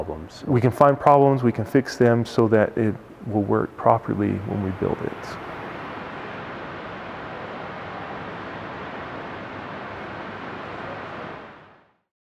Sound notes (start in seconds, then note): 5.3 water